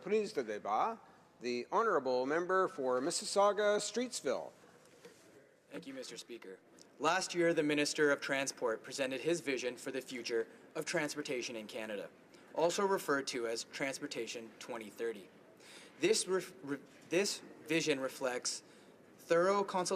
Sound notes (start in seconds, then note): 6.0 speaking French